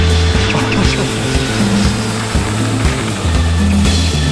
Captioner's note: airplane engine roaring; laughing